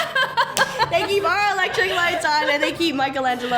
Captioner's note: laughs